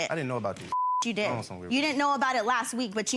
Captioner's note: beep